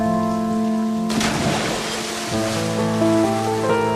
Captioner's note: water splashes